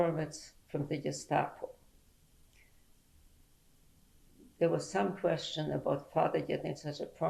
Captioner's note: pauses for 3 seconds